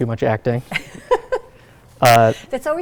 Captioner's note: laughs